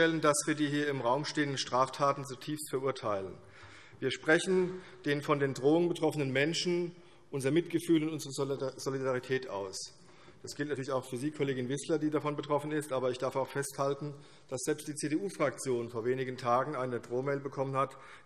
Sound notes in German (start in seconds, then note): none